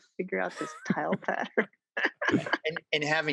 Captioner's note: laughs